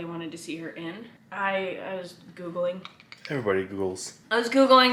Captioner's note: mimics keyboard tapping